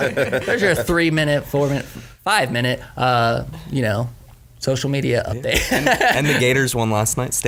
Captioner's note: laughs